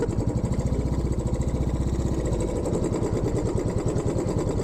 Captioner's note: bike engine